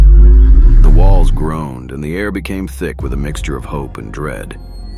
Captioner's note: power surge